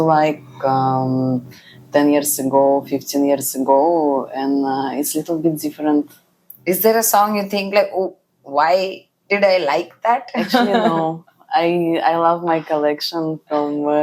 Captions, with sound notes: like, um, 10 years ago, 15 years ago and, uh, it's little bit different. Is there a song you think like, "Oh, why did I like that?" [laughs] Actually, no. I- I love my collection from